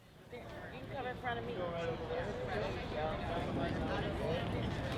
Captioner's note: people chattering